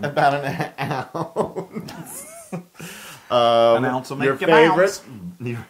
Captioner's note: laugh; laugh